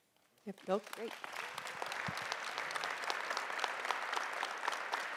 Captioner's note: audience applauding